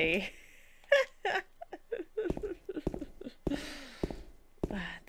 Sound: laughs

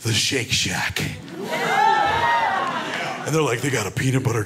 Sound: crowd cheers

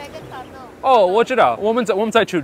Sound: Mandarin

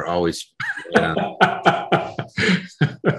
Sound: laughing

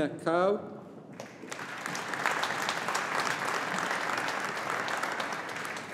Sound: audience applauding

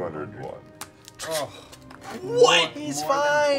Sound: groaning

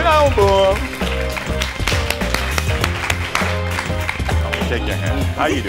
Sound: applauds enthusiastically

